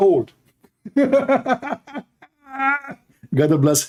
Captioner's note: Ketawa